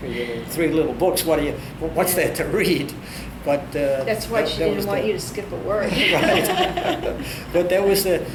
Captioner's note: all laugh